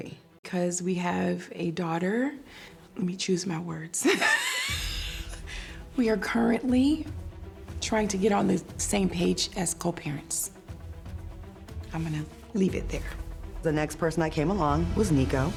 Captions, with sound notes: 'Cause we have a daughter... let me choose my words. [laughs] We are currently trying to get on the same page as co-parents. I'm gonna leave it there. The next person that came along was Nikko.